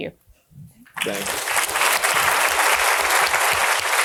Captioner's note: audience clapping